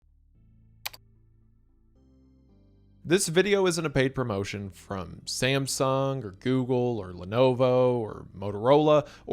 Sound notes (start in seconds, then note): 0.8 mouse clicks